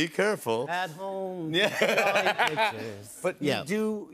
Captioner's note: normal voice; laughs